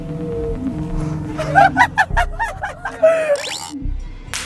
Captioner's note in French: Rire du spectacle